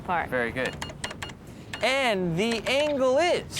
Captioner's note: beeping